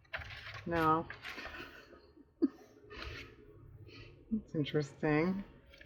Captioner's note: laughs